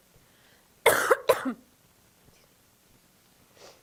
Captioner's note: coughing